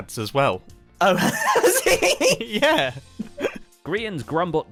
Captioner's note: both laugh